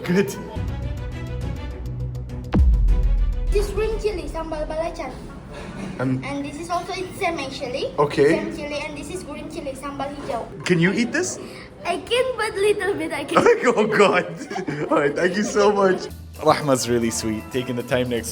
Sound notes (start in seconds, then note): 0.6 dramatic music; 14.2 laughs